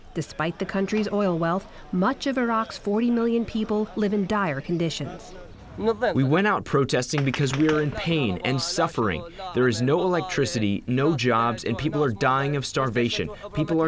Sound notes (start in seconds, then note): 5.5 through translator